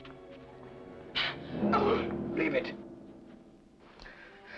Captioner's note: Jane gasps